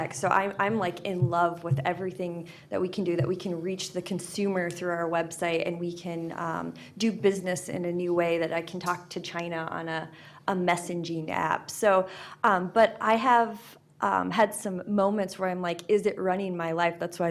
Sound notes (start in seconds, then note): none